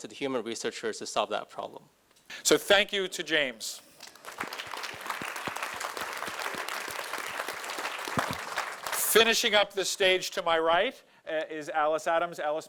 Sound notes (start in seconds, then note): 4.0 audience applauding